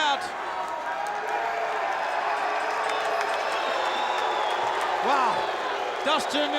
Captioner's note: applause